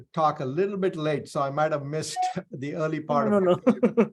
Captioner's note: email chime